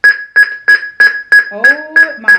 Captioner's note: loud beeping